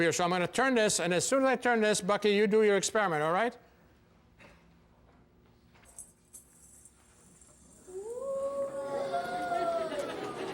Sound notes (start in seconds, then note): 7.9 audience exclaims; 9.2 audience laughs